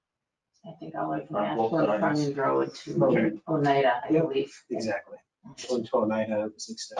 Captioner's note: speaking faintly